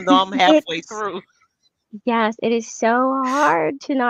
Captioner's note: laughs